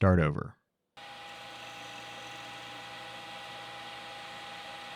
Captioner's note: machinery whirring